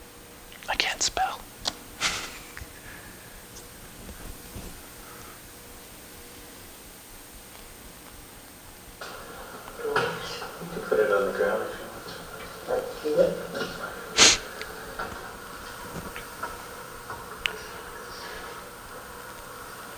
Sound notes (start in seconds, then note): 2.0 laughter